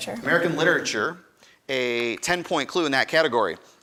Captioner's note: none